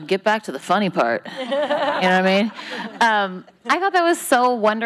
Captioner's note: laughing